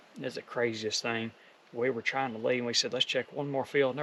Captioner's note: none